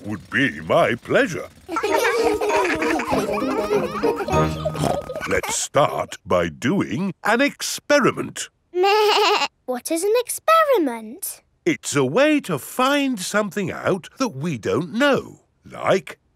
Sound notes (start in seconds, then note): 1.6 children laughing; 4.7 snorts; 8.9 bleating